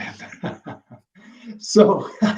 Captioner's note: laughs